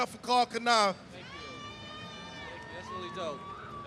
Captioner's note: crowd cheering